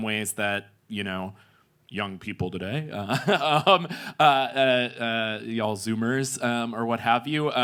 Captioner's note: laughs